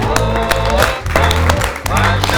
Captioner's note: claps